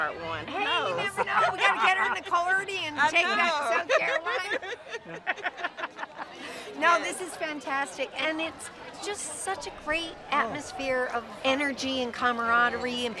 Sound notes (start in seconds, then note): 3.8 both laugh